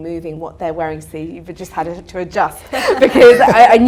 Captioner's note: audience laughter